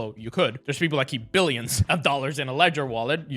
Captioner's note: laughing